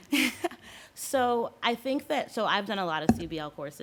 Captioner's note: laughs